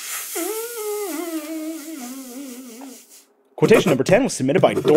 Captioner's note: finger blowing/whistling